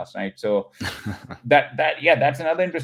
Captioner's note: laughs